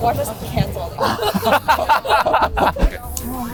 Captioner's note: laughs